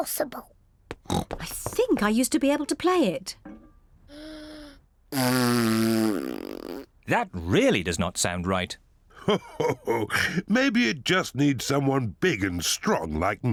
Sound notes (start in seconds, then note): 1.0 snorts; 3.4 inhales, blows raspberry